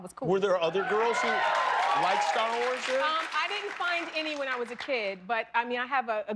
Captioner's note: cheers and applause